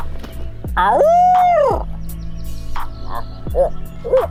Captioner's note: imitation squawking